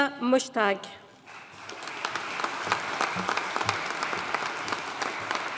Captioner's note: audience applauding